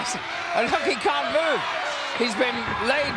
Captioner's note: laugh